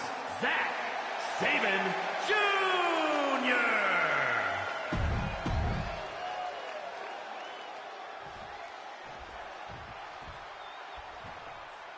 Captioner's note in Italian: applauso